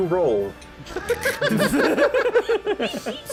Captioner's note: chuckling